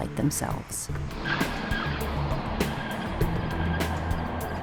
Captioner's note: tires screeching